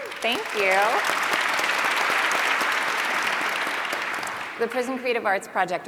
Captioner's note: applause